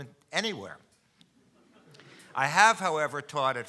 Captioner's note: audience chuckling